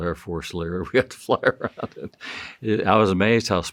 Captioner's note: chuckling